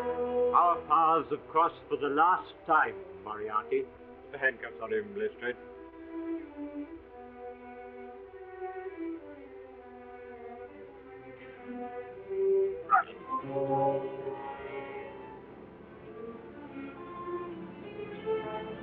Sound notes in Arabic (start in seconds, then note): 12.6 موريرتي يتذمر; 15.3 موسيقى مشوقة